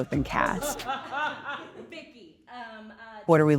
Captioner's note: group laughs